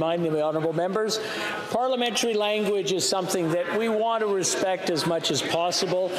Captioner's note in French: voix de l'interprète